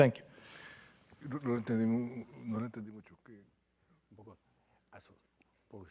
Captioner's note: indistinct conversation